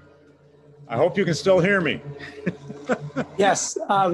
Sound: laughs

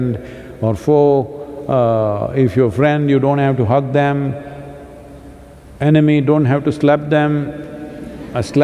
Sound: laughter

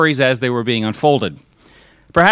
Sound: none

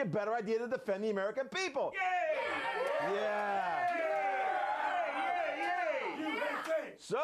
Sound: audience cheering

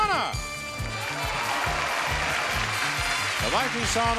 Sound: audience cheering

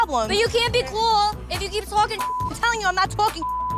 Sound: beep

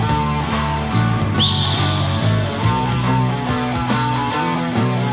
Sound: singer whistles

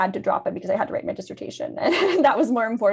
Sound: laughs

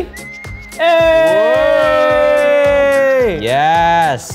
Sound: both cheering

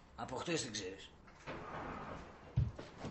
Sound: sliding door opens

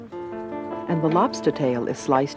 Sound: voiceover

